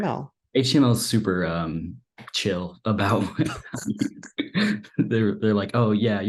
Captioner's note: laughs